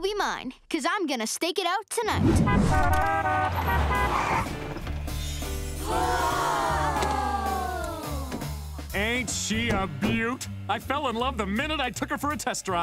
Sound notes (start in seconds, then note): 2.4 honking; 5.6 gasping